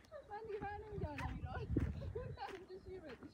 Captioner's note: laughter